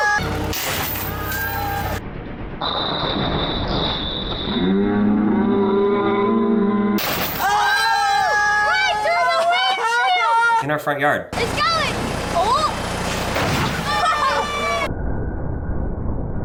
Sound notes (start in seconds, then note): 0.0 both shouting; 0.2 heavy impact; 4.1 heavy impact; 7.3 both shouting; 13.8 all shouting; 16.2 loud impact